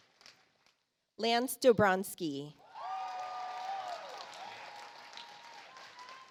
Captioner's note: audience applauds